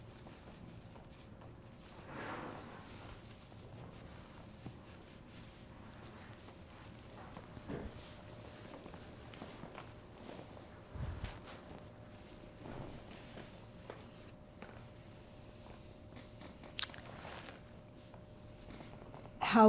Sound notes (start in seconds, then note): 10.1 pauses 8 seconds